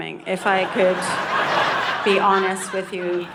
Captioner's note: audience laughing